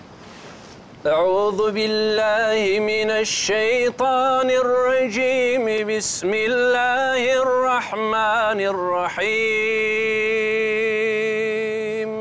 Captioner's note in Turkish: Arapça kuran okunuyor